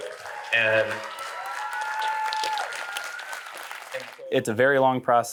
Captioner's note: audience cheering